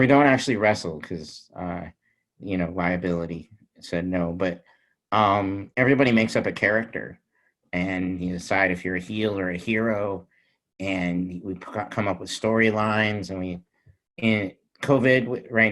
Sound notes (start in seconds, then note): none